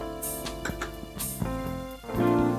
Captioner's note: glass clicks